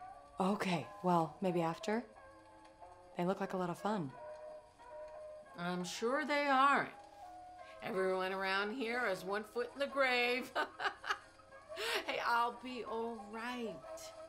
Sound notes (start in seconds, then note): 10.4 Rose Laughs